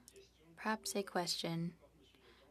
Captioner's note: speaking French